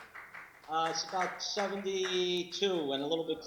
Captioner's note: applause